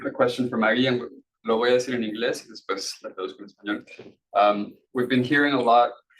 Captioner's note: speaking Spanish